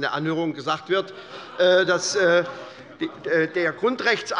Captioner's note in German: Lachen bei der SPD